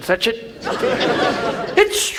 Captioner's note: audience laughs